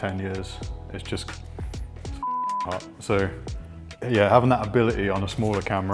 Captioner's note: beep